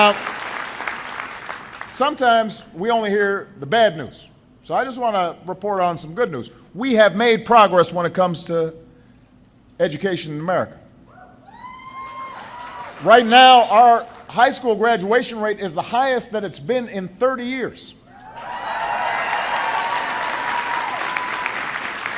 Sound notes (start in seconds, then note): 12.3 applause; 21.9 applause